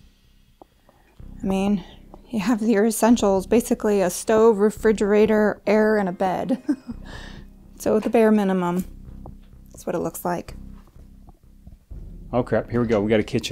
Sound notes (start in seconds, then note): 6.4 she chuckles